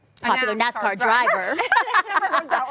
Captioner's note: laughing